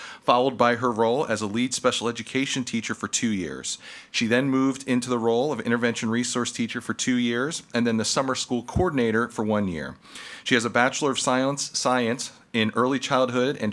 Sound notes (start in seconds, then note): none